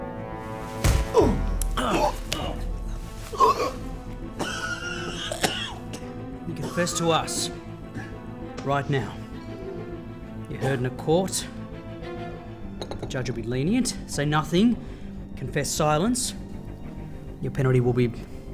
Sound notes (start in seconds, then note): 2.9 punch sound